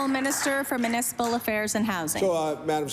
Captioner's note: applause